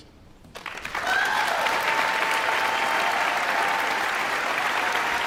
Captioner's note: guests cheering and applauding